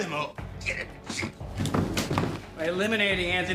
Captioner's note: dan thuds to floor